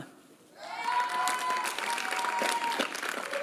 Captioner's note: applause